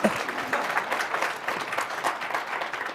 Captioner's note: applause